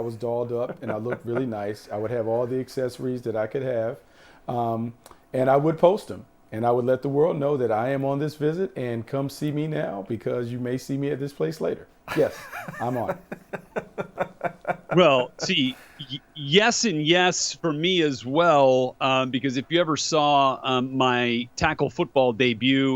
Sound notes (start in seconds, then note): 16.2 laughs